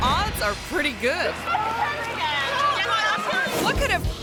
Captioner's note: people chattering